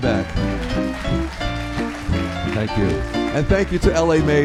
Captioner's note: applause